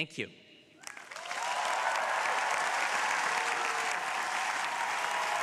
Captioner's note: crowd applauding